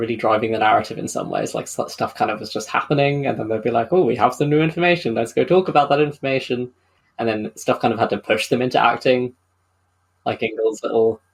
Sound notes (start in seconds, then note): none